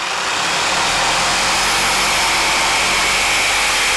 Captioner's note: saw cutting